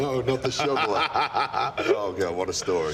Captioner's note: Sheamus laughs